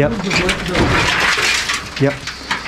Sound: clanking

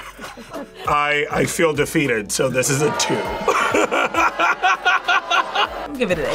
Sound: both laugh; laughs

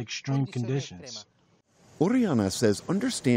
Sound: through translator

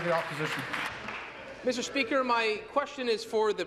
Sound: applause

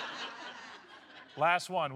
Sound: laughter

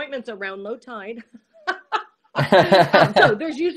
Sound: laughs

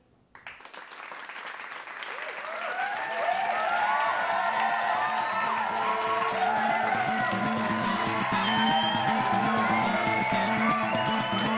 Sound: applause

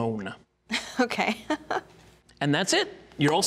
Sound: laughing

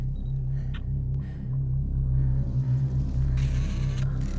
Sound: camera clicking

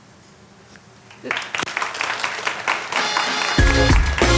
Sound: audience applauds; upbeat music

